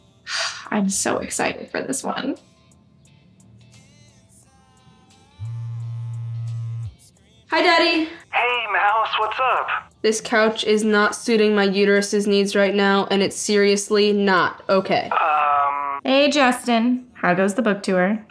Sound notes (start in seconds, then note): 0.3 sighs; 5.4 phone vibrates